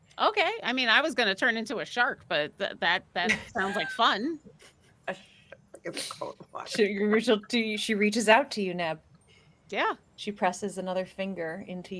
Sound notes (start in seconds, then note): 3.3 group laughing; 6.1 laughing